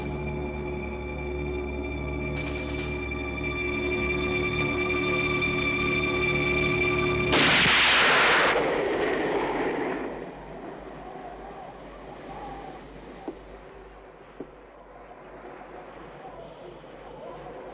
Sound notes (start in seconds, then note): 7.3 gun fires